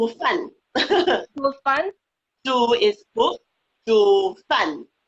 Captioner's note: speaking foreign language